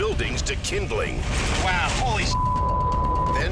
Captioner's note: beep